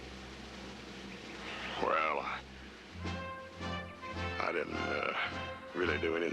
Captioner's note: deeper voice